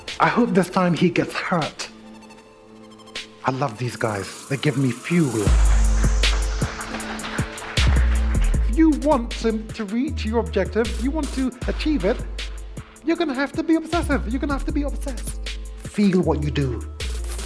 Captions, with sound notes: I hope this time he gets hurt. I love these guys, they give me fuel. (audience applauding) You want to reach your objective, you want to achieve it. You're gonna have to be obsessive, you're gonna have to be obsessed. Feel what you do, feel it!